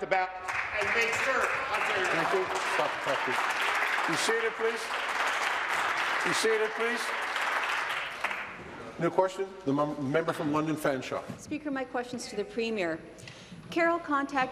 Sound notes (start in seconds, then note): 5.4 applause